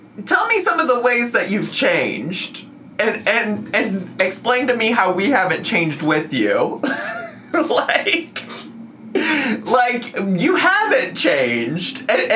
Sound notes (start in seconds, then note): 6.8 laughs